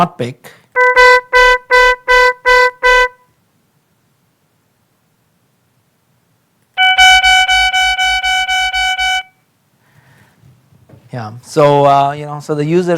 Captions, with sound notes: OKAY. SO NOW COMPARE THAT WITH SOME OF THE OTHERS THAT THEY DID NOT PICK. [ HORN BLAIRING ]